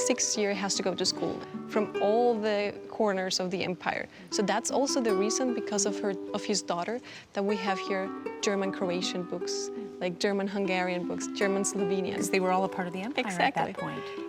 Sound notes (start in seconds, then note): none